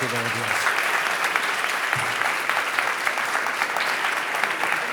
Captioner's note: audience applauding